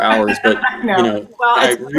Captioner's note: laughs